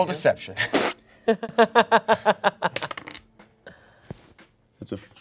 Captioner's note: laughs